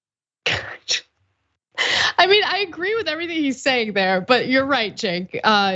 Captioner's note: laugh